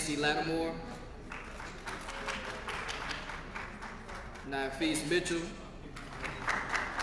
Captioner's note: applause